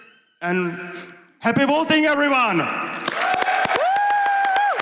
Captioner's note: applause